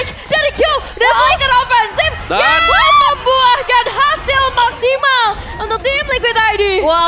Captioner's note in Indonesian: berteriak